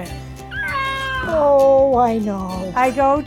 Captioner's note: baby cries